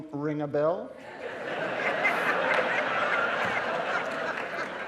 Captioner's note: audience laughing